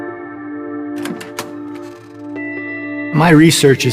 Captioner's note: calm ambient music; door hinges squeaking